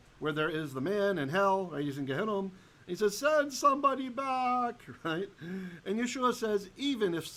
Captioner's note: Hebrew